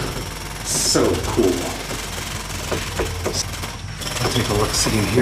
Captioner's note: drilling sounds